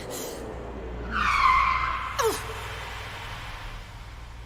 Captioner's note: brakes screech